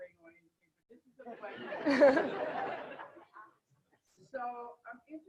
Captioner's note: group laughter